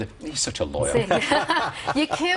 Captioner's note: all laughing